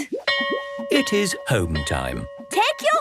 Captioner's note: bell rings